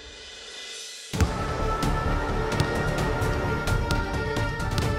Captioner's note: dribbling basketball